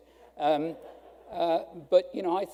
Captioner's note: audience laughing